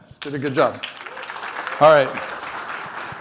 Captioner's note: applause